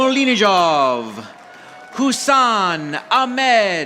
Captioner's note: audience applauding